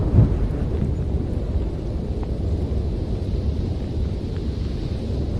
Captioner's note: wind blowing